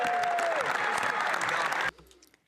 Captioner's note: some Applause